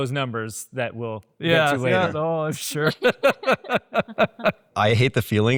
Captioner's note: laughs